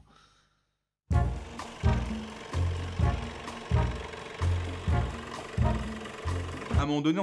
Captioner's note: jazz music; cutting machine noise